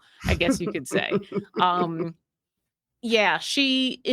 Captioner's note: giggling